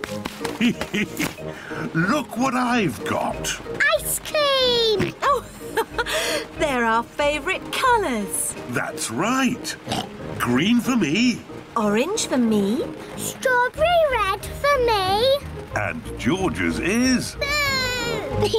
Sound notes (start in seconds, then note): 0.5 laughs; 4.8 laughs; 9.8 oinks